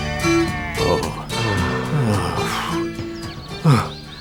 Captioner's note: sighs